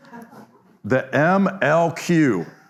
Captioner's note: audience laughs